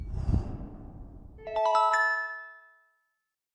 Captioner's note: whooshing; magical chimes